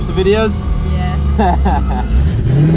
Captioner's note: chuckles